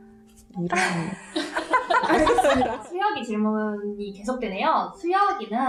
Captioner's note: laughing